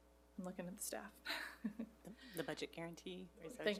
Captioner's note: laughs